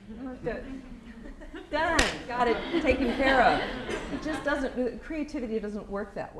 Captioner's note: laughter